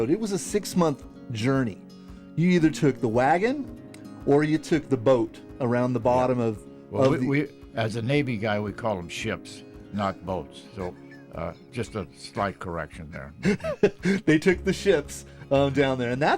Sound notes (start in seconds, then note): 13.0 laughing